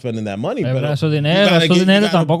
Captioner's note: speaking In Foreign Language